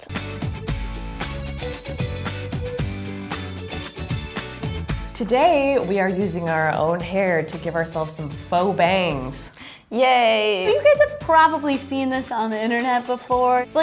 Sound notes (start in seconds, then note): 0.2 energetic music; 9.5 gasps